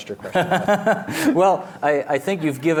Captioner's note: laughs